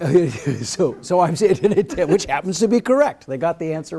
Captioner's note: laughs